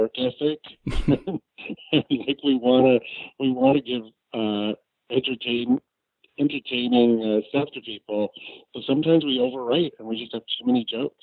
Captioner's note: laughs